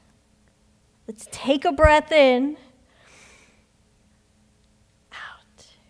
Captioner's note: inhales